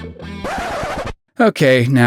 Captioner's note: record scratch